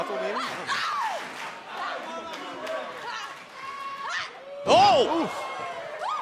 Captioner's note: crowd cheering